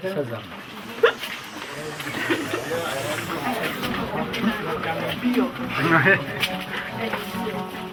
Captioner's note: people chatting